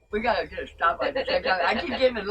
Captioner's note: people laughing